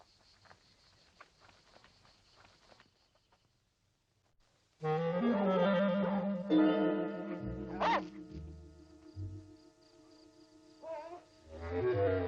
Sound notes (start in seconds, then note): 4.9 dog barking; 6.2 light dramatic music